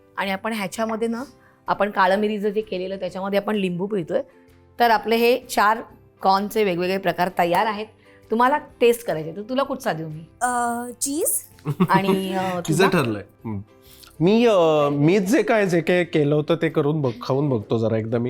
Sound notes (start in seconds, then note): 11.6 chuckles